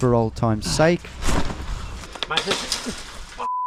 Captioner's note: ground thudding; wire gnashing